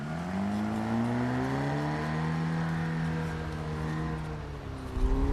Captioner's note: engine roaring